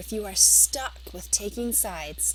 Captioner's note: Vietnamese